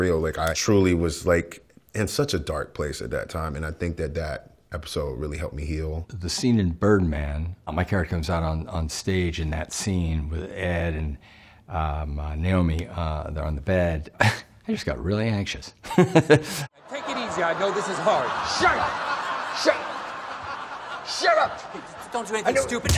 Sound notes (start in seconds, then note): 15.8 laughing